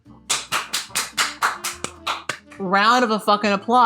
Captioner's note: clapping